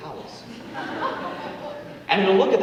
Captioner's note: audience laughing